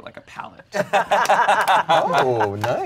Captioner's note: everyone laughs